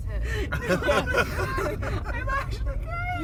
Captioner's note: laughter